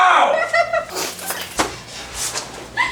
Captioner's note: laughing noise